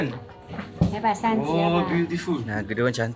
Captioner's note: speaking Chinese